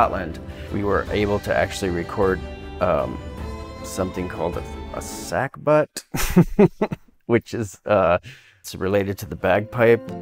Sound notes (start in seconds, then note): 6.0 laughing